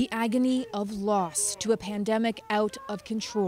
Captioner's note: sobbing